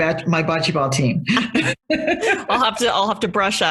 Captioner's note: both laugh